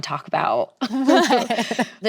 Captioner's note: laughs